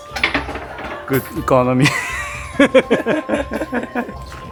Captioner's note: laughing